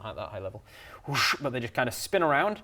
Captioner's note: whoosh